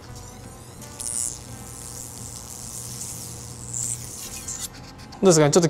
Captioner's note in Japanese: 脱磁器の音